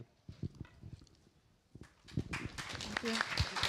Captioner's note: applause